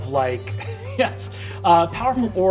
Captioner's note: laughing